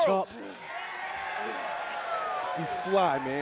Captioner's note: fans cheering